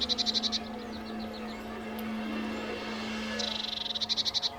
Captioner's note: birds calling; dogs barking